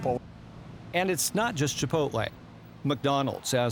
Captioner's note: voiceover